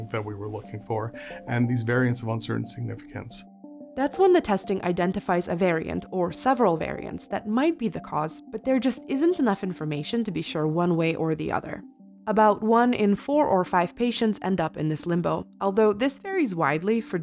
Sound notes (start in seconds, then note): 4.0 voiceover